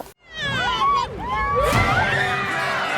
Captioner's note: kids yelling; kids cheering